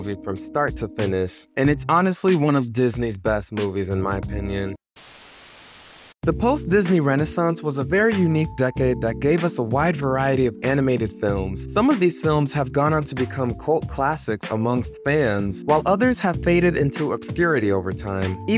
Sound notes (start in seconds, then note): 5.0 static buzzing